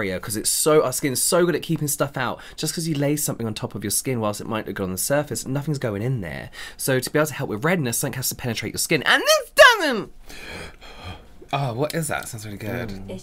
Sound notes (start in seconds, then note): 10.1 whiny Voice